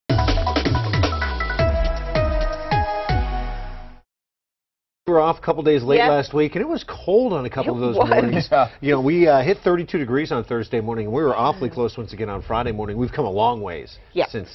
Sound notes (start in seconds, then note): 8.0 laughter